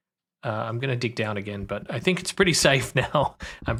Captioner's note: laughs